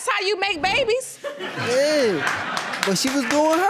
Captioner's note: audience laughing and applauding; applause continues